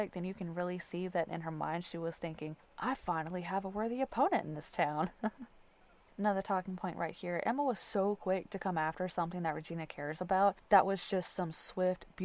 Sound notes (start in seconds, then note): 5.0 light laughter